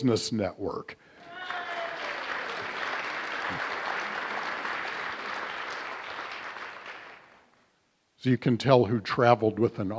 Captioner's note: applause